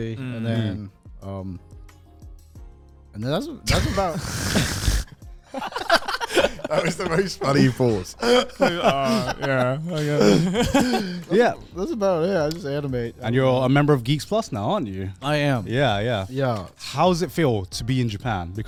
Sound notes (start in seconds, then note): 5.5 all laugh; 11.0 chuckles